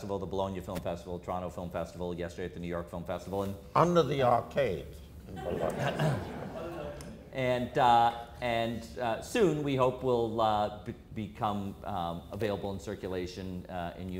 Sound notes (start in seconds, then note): 5.3 audience laughter